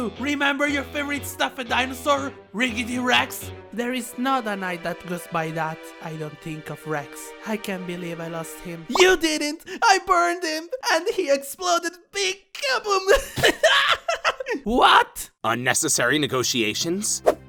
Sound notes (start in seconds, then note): 13.1 laughs